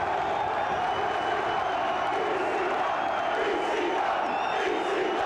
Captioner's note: crowd chants "ECW"